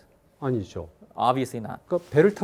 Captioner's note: speaking in Korean